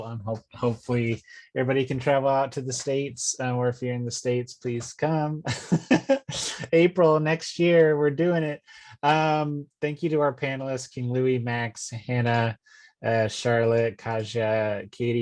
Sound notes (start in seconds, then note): 5.4 chuckling